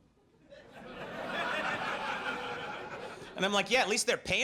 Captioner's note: audience laughs